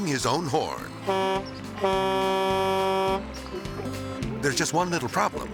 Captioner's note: horn honking